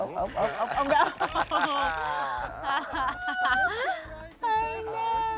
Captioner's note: all laughing